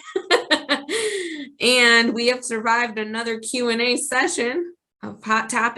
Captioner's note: laughs